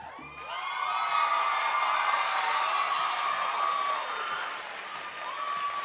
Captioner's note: audience cheering and applauding